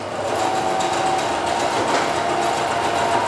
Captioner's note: loud sewing machine hammering